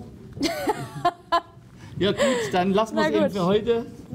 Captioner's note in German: Sie lacht